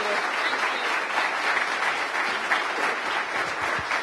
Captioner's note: applause